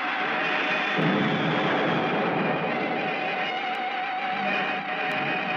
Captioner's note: explosion booming